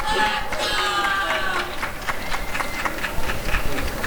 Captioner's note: applause and cheering